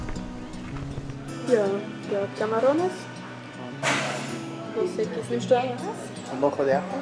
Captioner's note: in Swiss German